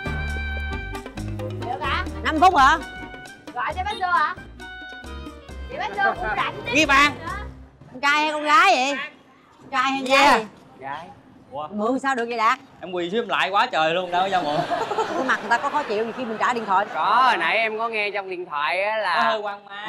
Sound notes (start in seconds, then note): 14.4 laughing